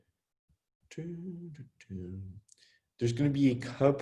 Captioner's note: hums